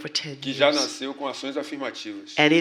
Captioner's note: speaking portuguese